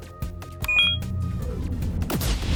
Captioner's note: beeps